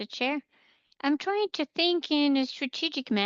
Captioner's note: speaking French